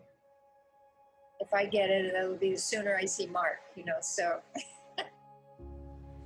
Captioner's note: laughs